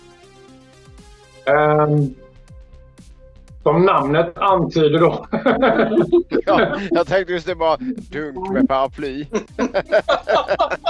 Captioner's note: laughs